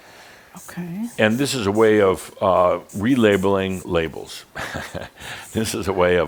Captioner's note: Adamus chuckles